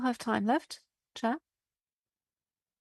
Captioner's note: speaking French